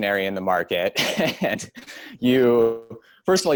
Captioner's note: laughs